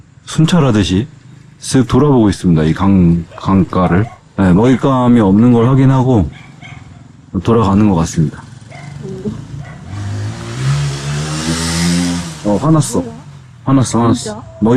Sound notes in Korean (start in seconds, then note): 9.9 거친 엔진 소리